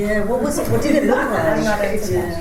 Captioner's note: laughter